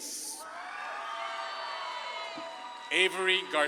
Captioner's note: audience claps and cheers